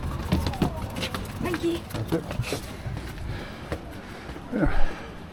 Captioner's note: background chat